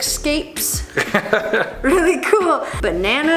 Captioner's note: chuckles